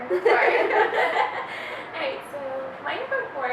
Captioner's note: laughing